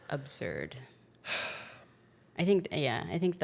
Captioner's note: sighs